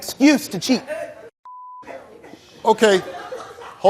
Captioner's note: beep